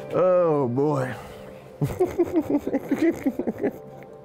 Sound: laughs

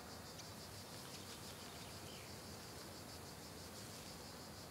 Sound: birds chirping

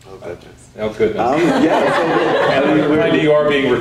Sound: audience laughing

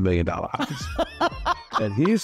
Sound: laughter

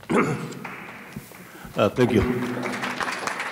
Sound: audience applauding

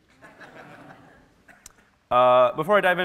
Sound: audience laughing

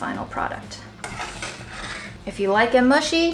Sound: spoon scraping

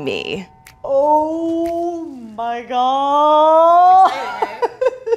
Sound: laughing

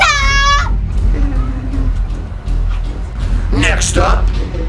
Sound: evil laughter

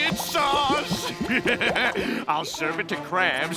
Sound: laughing

